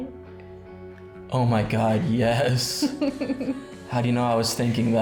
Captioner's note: giggling